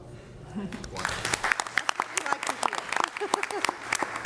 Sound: applause

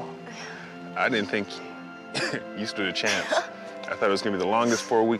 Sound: chuckles

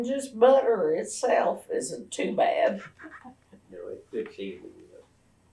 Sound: laughter

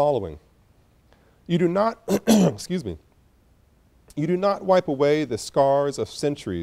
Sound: coughs

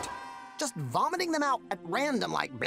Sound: distant screaming

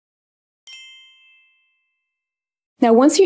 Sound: chiming

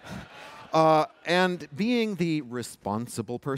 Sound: laughter

